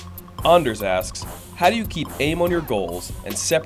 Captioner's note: voiceover